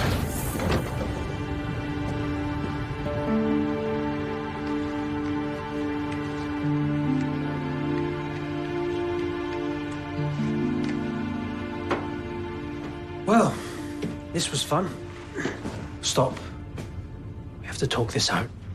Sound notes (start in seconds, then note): none